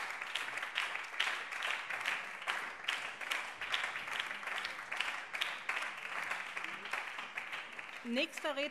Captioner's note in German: Beifall BÜNDNIS 90/DIE GRÜNEN